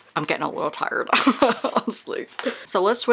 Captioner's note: laughs